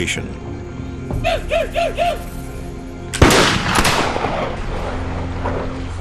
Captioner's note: gunshot bangs; Indian whoops